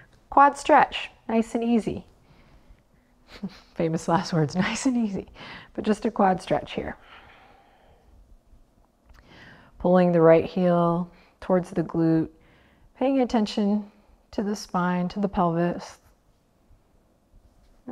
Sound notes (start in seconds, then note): 3.3 chuckles